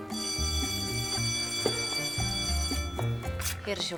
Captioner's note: bell rings